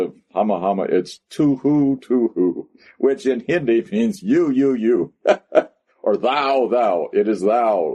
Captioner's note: laughs